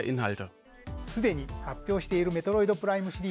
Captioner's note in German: Er spricht japanisch